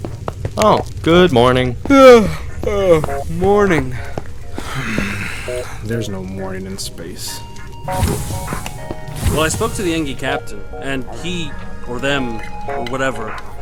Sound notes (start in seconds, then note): 4.5 yawn; 4.6 sigh